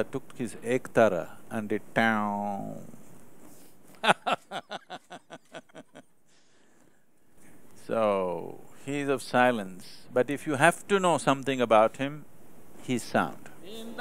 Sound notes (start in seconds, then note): 4.0 laughs